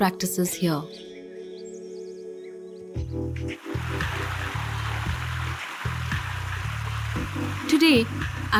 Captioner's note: birds chirping; moves into upbeat music